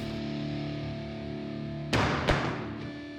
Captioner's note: head hits the floor